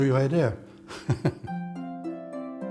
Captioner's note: laughs